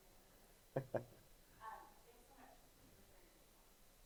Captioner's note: giggles